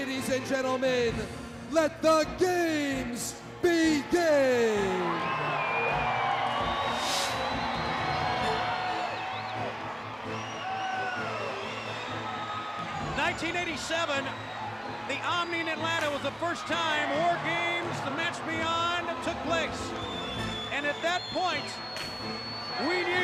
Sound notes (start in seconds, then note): 5.0 crowd cheering